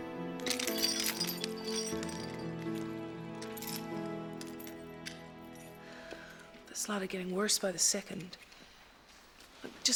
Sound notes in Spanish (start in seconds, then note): 0.4 cadenas tintineando